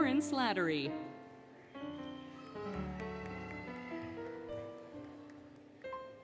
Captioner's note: applause, Cheering, Music